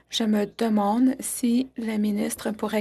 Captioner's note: speaking French